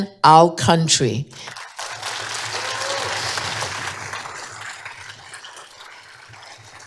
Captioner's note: applause